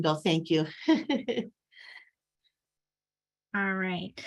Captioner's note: laughing